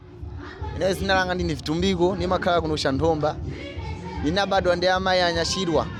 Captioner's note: speaking foreign language